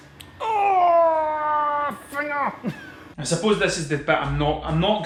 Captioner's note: annoyed grunt